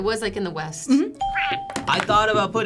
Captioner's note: ping